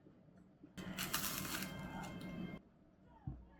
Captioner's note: crunch 4